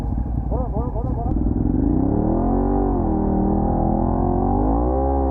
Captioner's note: aggressively